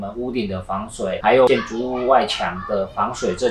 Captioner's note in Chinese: 外面有小孩放学在聊天听起来很嗨